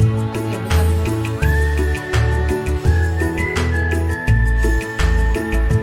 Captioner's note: blowing